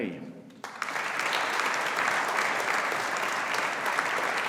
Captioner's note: audience applauding